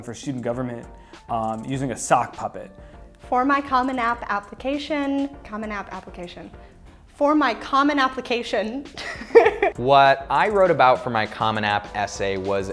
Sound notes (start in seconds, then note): 9.0 laughing